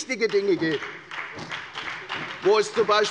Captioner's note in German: Beifall bei der FDP und bei Abgeordneten der SPD